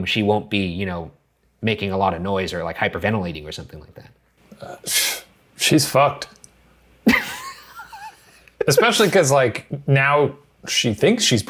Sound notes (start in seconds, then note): 4.4 scoffs; 7.0 laughs